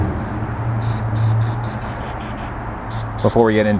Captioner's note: Gumout sprays